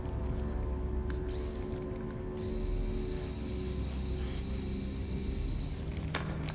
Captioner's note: screwdriver whirring